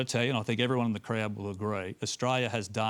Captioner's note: none